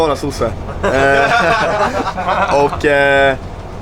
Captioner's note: everybody bursting out in laughter